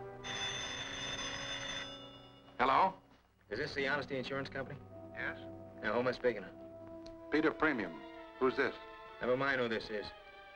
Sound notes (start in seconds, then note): 0.1 phone rings